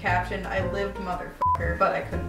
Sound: beep

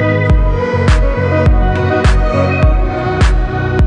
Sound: nervous

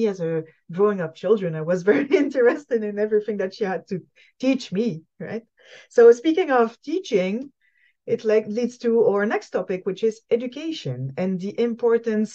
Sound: laughs

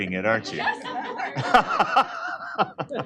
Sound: laughter

